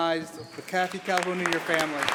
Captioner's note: applause